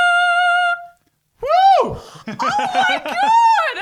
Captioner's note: hoots